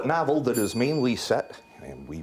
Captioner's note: bell dings